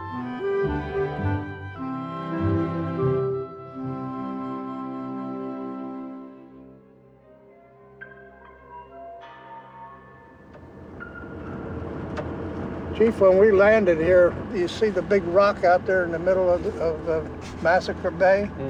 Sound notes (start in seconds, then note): 7.3 ominous music; 10.7 engine rumbling